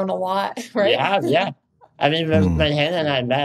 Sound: giggles

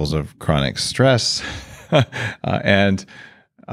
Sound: chuckles

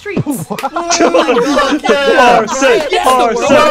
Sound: laughter

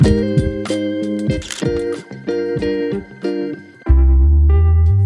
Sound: camera shutter clicks

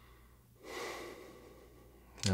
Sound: Nosa sighs

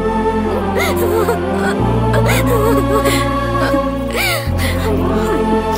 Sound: crying

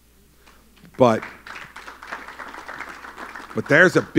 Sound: applause

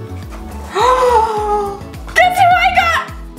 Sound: gasps

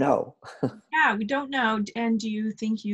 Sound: laughs

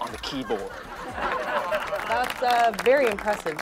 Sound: audience laughing

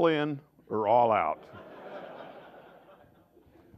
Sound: laughter

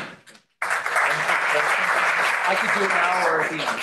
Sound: applause

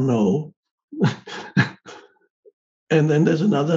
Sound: Eckhart chuckling

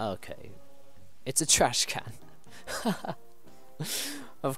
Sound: laughs

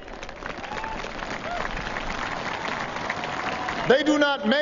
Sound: applause

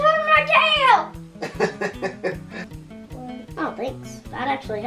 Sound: laughs

